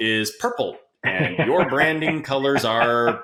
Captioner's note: laughing